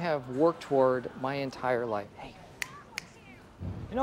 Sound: snapping fingers

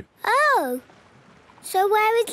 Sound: none

